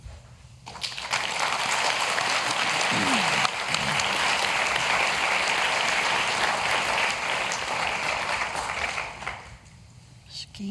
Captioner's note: applause